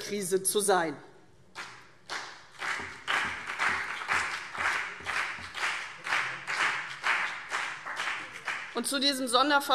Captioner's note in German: Beifall CDU und BÜNDNIS 90/DIE GRÜNEN